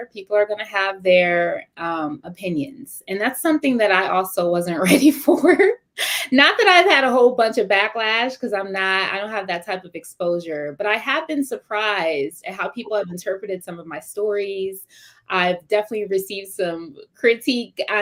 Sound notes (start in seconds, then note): 5.4 laughter